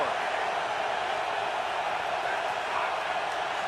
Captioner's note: cheering